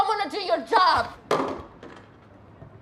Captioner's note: phone thudding